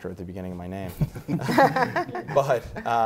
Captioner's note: panel laughter